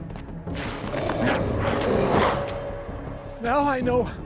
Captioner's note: glowzies growling